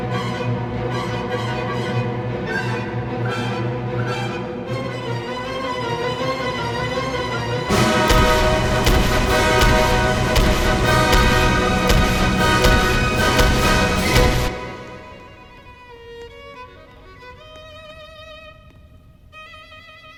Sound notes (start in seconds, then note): 7.6 classical music screams; 7.6 revolver reloads; 8.3 classical music screams; 8.3 revolver fires; 8.3 revolver reloads?; 8.9 Revolver fires X2; 8.9 classical music screams; 8.9 revolver reloads??; 9.4 classical music screams; 9.4 revolver fires X3; 9.9 revolver fires X4; 11.0 revolver fires X5